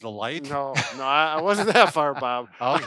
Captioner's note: laughing